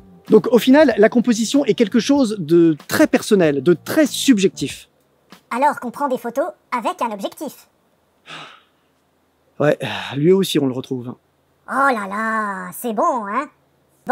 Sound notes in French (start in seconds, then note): 8.2 Soupir